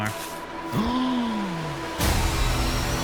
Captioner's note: gasping